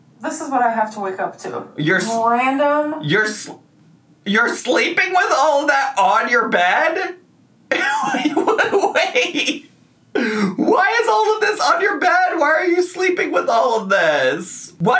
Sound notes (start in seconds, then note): 7.7 laughs